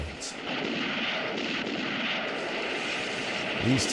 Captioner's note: gunfire